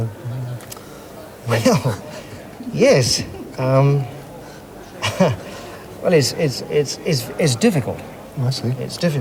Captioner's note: laughs